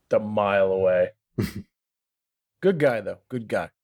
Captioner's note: laughter